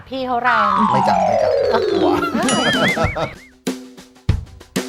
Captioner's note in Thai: หัวเราะ